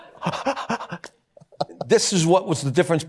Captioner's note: mimics hyperventilating